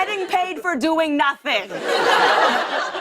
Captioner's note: laughter